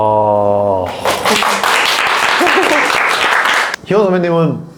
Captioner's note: applause